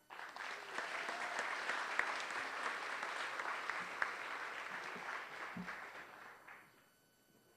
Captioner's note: applause